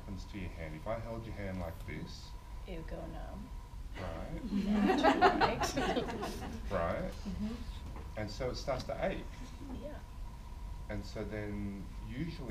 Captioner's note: audience laughs